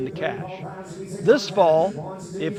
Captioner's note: auctioneer chanting